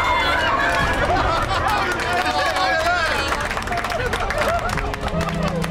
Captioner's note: all cheering; all clapping